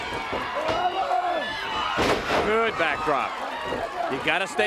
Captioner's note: crowd cheering